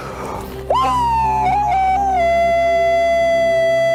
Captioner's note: aullando